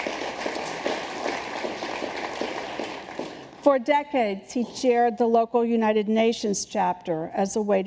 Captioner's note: applause